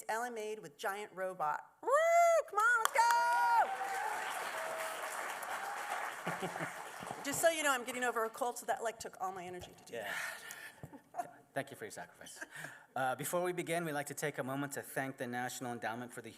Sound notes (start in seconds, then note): 4.5 applause; 10.9 chuckles